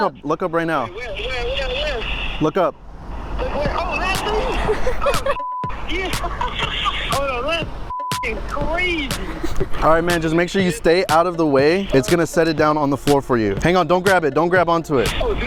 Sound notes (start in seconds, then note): 5.3 beep; 5.7 laughs; 7.8 beep